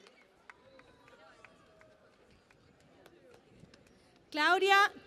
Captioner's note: cheering and Applause